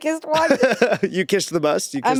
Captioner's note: Eddy laughing